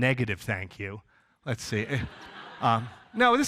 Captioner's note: audience laughs